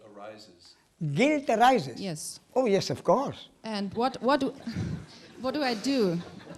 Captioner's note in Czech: smích